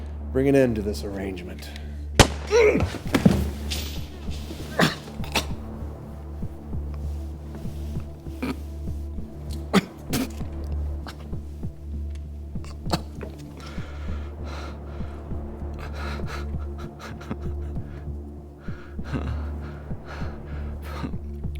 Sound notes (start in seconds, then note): 2.5 Weston groaning; 5.8 tense music; 17.3 Weston laughing lightly